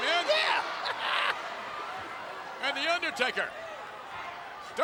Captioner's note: cackles